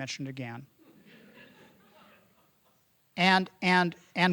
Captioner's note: audience laughing